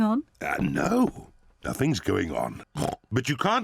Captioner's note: oinks